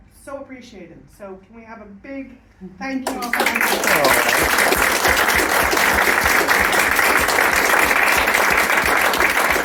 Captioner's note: applause